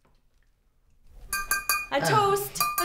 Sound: glass clanking

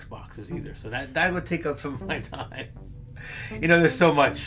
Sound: chuckling

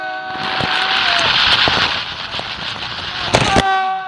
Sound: wheels spinning along track

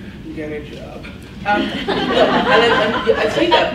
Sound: laughs

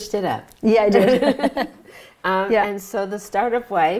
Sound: laughs

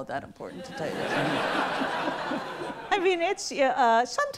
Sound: audience laughs

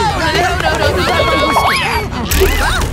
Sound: Angela screams

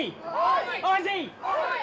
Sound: crowd

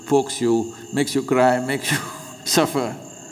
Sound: laughs

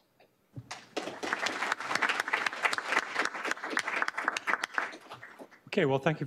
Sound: applause

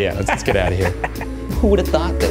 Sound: laughs

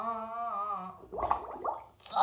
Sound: watery fart

